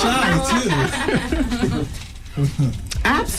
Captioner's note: laughing